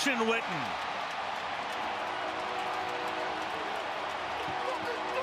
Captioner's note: cheering